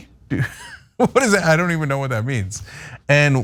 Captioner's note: laugh